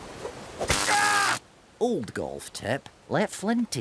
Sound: zapping

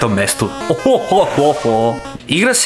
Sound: laughing

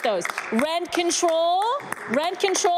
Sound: some Applause

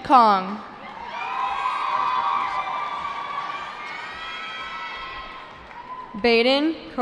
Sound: cheering

